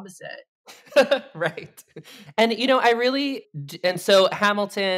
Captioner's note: chuckles